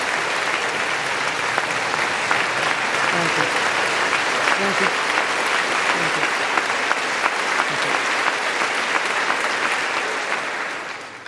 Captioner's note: applause